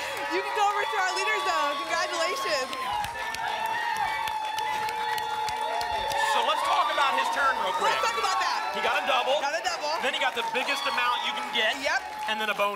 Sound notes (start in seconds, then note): 3.0 applause and cheering